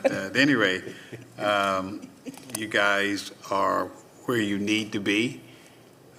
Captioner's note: laughter